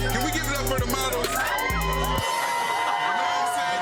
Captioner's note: crowd cheering